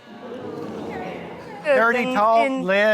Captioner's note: audience exclaiming